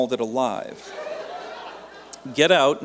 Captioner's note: laughter